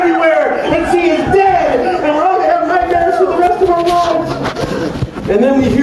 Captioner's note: AAHHHhhhhhhhhhhhhh